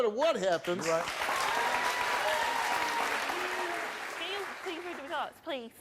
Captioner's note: audience applauds